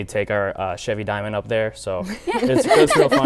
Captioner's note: laughing